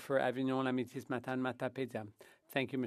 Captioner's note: speaking French